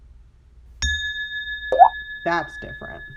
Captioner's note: ringing, drip